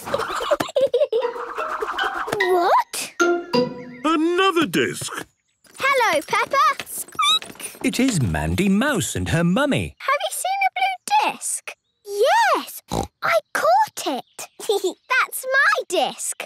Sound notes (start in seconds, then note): 0.0 giggling; 6.9 squeaking; 12.8 snorting; 14.3 giggling